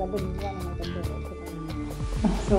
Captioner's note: indistinct chatter